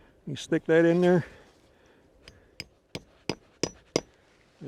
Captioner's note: metal clanking